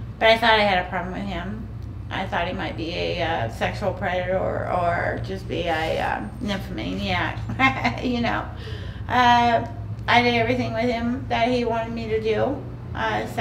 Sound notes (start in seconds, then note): 7.1 laughing